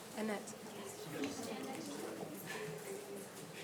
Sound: faintly speaking

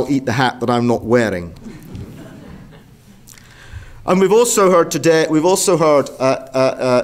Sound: laugh

